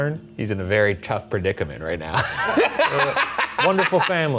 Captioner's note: laughs